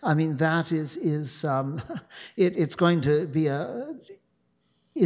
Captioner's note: chuckling